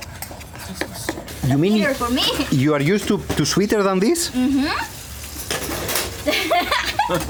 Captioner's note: laughing